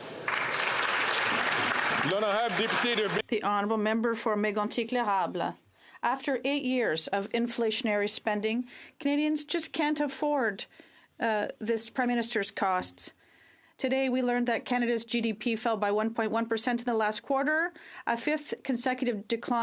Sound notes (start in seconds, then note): 3.6 some Applause; 6.5 speaking French